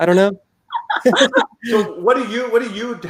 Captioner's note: laughing